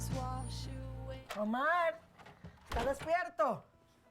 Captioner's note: hablando español